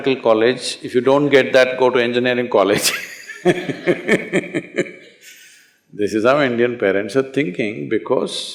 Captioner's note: laughter